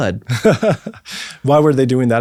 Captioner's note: laughs